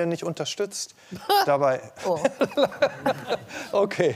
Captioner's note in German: lacht; belustigt